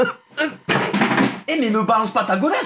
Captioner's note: Noise of shoe thrown violently on Lord Paddle